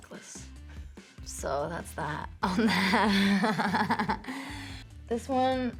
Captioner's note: laughs